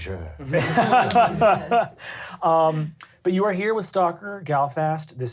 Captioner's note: laughter